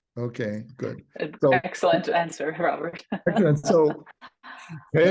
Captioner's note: laughs